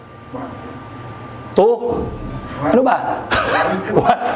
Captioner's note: laughs